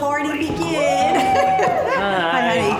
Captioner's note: cheers